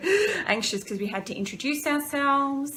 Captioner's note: inhaling sharply